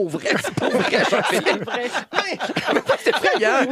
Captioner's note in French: rires